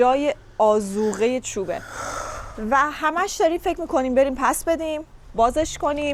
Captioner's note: sighs